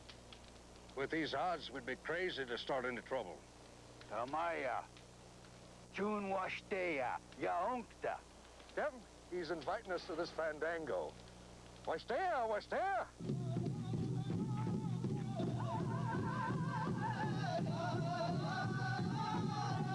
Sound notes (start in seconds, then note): 3.7 speaking Sioux; 11.3 speaking Sioux